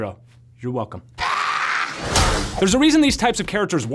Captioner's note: screaming